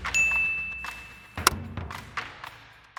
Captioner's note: countdown tones; bell chimes; upbeat music